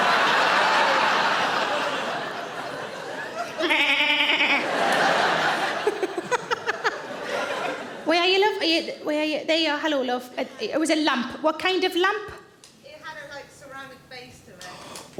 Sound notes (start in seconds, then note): 0.0 audience laughing; 3.6 Sarah bleating